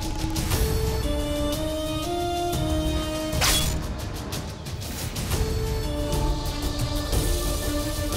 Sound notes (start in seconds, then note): 3.4 sword swiping